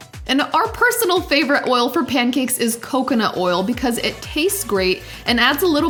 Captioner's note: none